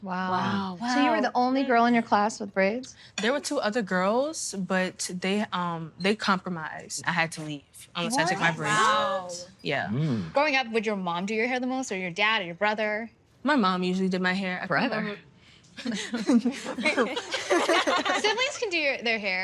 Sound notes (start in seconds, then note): 15.9 laughing